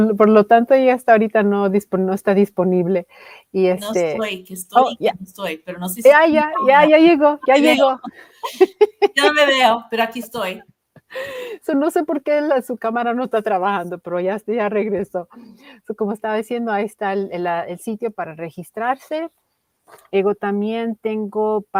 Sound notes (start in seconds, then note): 8.6 ríe